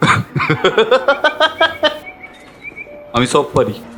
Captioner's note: laughs